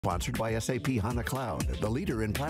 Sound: voiceover

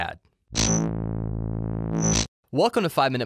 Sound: electricity humming

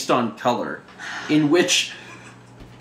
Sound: sighs

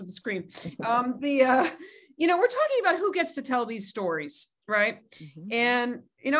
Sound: laugh

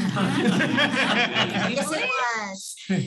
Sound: laughter

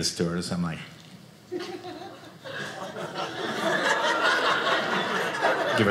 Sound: audience laughing

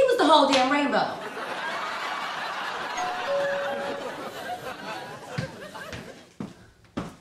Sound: audience laughter

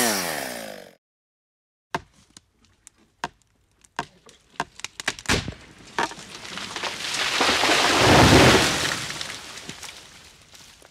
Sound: chainsaws; tree creaking and falling

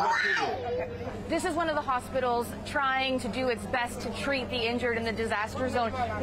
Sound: screaming

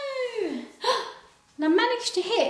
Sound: gasps

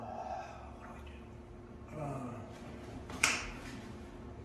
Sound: moans

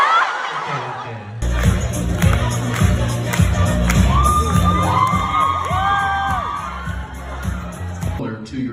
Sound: ปรบมือ

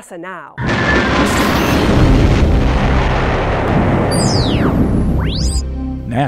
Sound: sound Effects

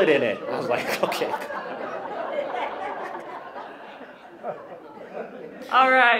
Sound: laughter

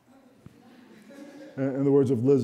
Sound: audience chuckling

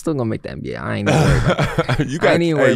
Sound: laughing

